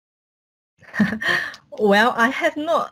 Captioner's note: laughs